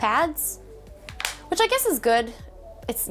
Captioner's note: pad clunks